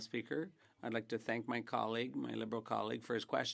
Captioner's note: speaking French